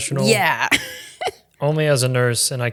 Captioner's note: giggling